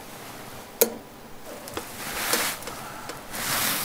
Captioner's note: metal click